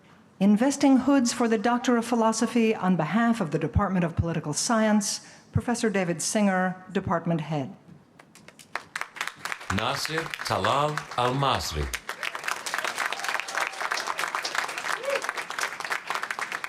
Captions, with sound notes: Investing hoods for the doctor of philosophy on behalf of the Department of Political Science, Professor David Singer, Department head. Nasir Talal Almasri. [APPLAUSE]